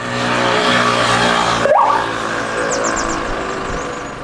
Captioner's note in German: lautes Klingeln